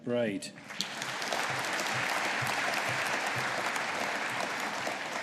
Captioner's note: audience applauding